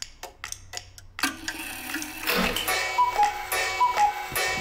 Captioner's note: clock cuckooing